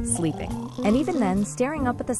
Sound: snoring sound

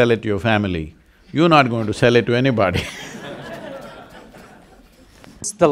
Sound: laughs

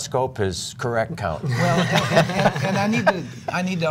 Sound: laughter

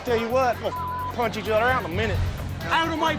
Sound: beep

